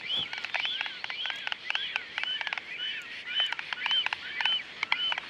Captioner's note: storks croaking